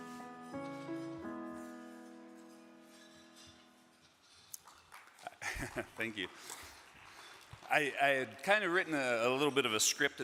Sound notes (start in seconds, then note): 0.0 piano music; 4.5 audience clapping